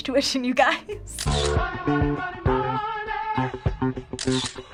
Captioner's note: shutter clicks